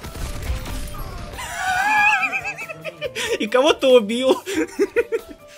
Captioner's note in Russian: звук смеющейся гиены